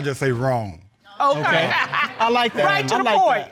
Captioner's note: all chuckling